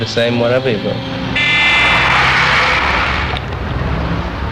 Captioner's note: horn honking